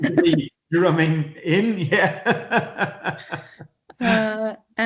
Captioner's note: laughing